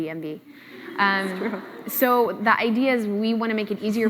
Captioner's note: laughs